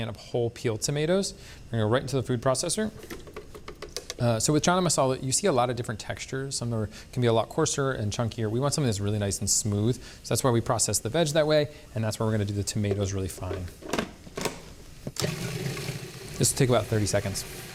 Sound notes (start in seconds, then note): 13.7 lid clicks; 15.2 processor whirring